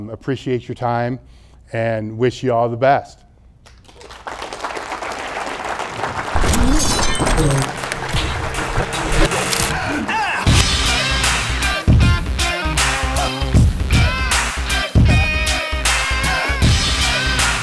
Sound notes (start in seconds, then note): 3.6 applause; 6.3 electronic sound effects; 10.4 upbeat electronic music